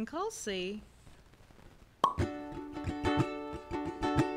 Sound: pop

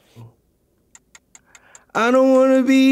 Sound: clock ticks

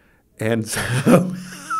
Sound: he laughs

